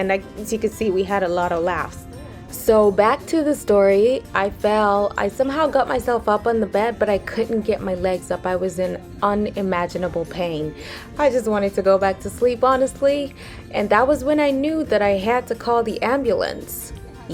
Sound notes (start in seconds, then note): none